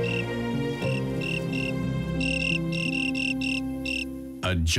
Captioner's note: insect chirping